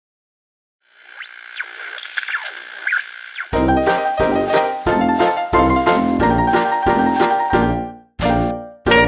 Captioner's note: TV interference